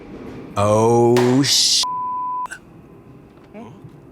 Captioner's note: beep